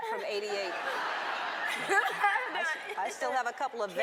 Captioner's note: audience laughs